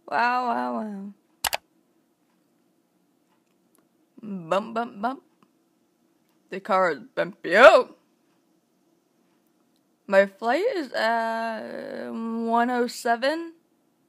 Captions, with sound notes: Wow, wow, wow. (CLICK SOUND) Bump, bump, bump. The car is bumpy- oh! My flight is at...1:07.